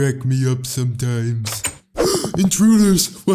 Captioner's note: laughs; gasps; door opens